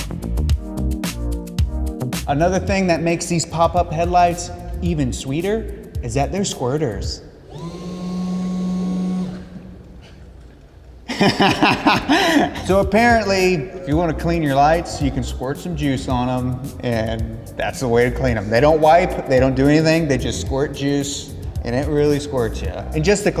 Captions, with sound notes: (upbeat music) Another thing that makes these pop up headlights even sweeter, is that they're squirters. (jets whirring) So apparently, you want to clean your lights, you can squirt some juice on them and that's the way to clean them. They don't wipe, they don't do anything, they just squirt juice and it really squirts ya.